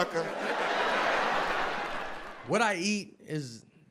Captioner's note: audience laughs